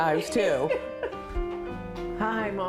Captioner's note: laughs